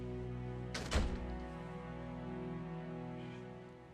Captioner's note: door closes